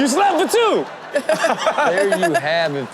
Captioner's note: Chanel and Sterling laughing